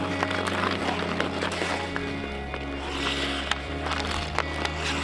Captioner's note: ice skates grinding